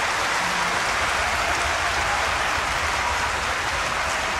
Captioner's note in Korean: 박수